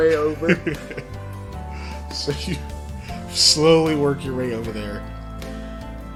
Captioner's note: laughs